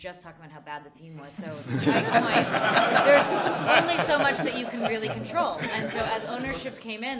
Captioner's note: laughter